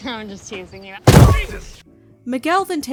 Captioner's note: thump